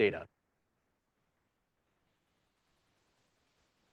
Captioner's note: audio out